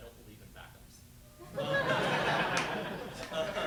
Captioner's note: laughter